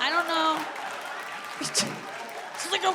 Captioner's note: audience clapping; chuckles; grunting